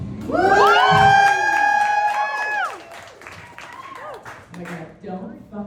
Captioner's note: pride show audience cheers